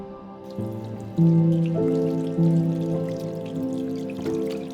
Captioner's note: water splashing